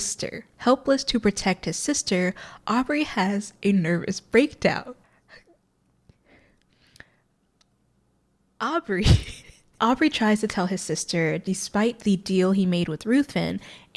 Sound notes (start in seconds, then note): 4.7 tense silence as tries to hold in their laughter; 9.0 laughter ensues